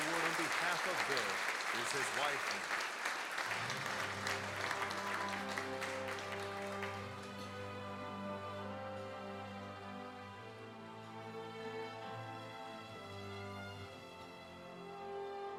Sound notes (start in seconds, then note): 3.8 applause; 6.0 dramatic orchestral music